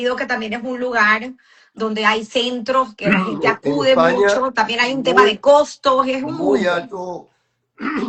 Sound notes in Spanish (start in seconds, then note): 3.0 carraspeo